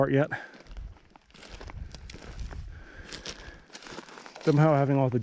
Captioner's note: gravel crunching